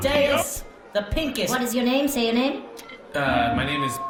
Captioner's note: microphone feedback